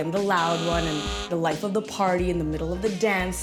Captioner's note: horn sounds